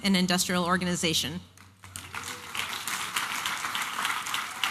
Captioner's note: applause and cheering